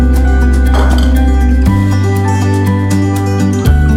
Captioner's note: snap; glass clanks; inspiring music